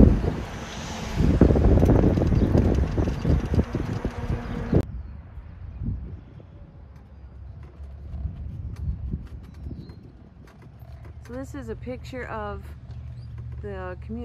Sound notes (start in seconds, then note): 0.0 air whooshes; 6.4 birds chirp